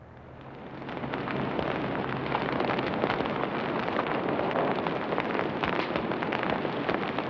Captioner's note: fire crackling